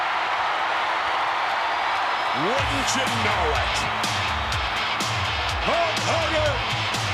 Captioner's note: applause